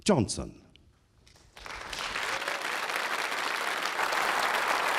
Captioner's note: applause